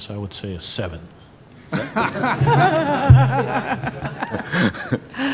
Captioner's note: laughter